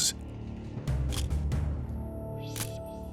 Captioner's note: camera shutter click